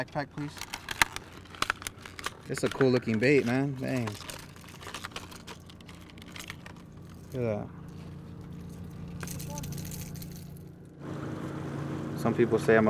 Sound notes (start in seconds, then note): 7.8 lure rattling; 9.3 boat engine idling